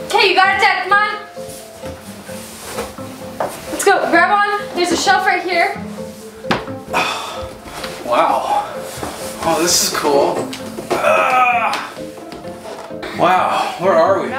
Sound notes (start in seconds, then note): 11.0 grunts